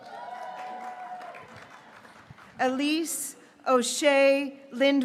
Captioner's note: graduates cheering